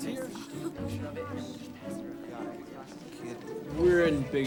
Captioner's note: students murmuring